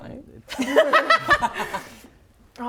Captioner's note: laughing